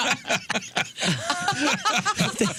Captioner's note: laughter